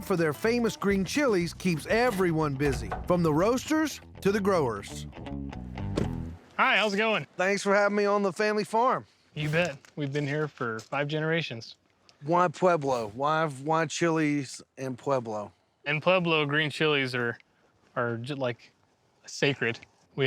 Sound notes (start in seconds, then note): 5.9 door closing